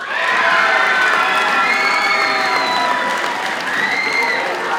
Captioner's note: audience cheers and applauds